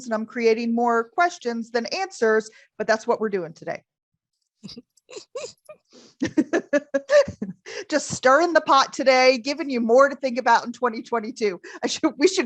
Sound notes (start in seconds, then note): 6.2 laughs